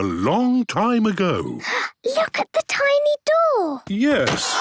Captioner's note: gasps